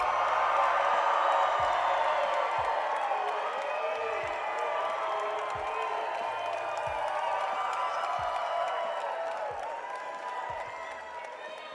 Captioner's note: cheering and applause